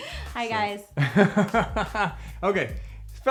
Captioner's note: laughs